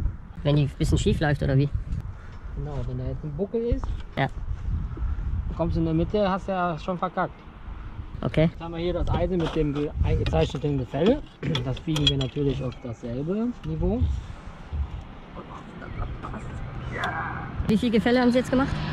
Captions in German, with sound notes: - Wenn die ein bisschen schief läuft, oder wie? - Genau, wenn da jetzt ein Buckel ist.. - Ja - ..und kommst in die Mitte hast du ja schon verkackt. - Okay. - Jetzt haben wir hier das Eisen mit dem eingezeichneten Gefälle.. ..das biegen wir natürlich auf das selbe Niveau und hofft, dass das passt. [ÄCHZEN] - Wie viel Gefälle haben Sie jetzt gemacht?